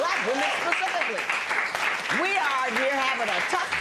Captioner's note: applause